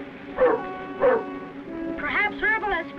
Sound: Rebel barking

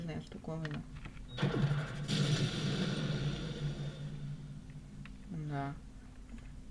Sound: explosion

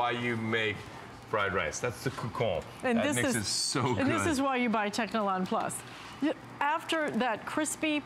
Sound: foreign language

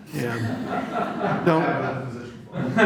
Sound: laughter

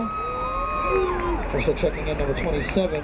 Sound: crowd cheering

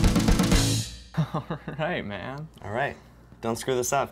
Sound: laughs

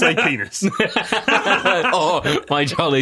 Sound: laughter

